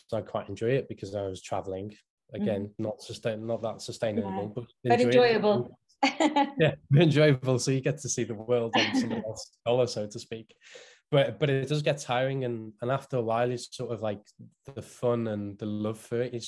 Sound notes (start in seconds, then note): 6.6 laughing